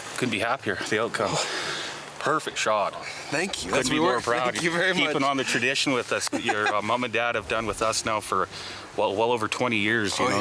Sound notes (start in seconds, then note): 6.2 giggling